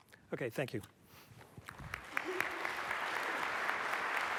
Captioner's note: applause